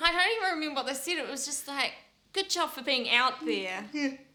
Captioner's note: patronizing voice